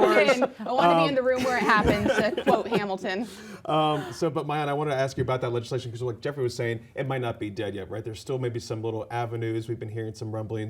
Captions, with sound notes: She jumped in right before they locked the doors. (laughter) I want to be in the room where it happened, to quote Hamilton. So, but Maayan, I want to ask you about that legislation because like Jeffrey was saying, it might not be dead yet. Right? There's still maybe some little avenues.